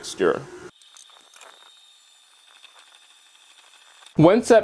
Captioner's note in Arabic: صوت خلاط